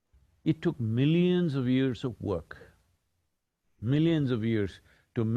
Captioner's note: none